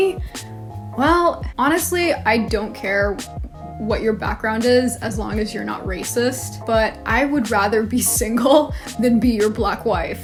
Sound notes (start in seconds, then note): none